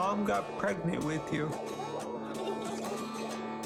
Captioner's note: chuckling